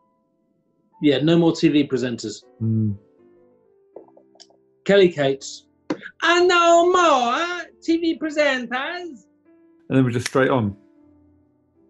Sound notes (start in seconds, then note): 6.0 accented; 10.2 clicks fingers